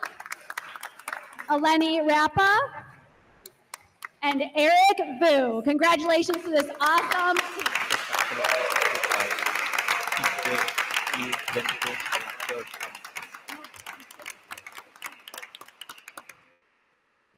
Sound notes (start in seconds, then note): 0.0 attendees applauding; 8.4 attendees applauding; 8.4 attendees cheer